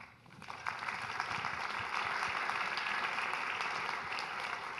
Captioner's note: audience applauding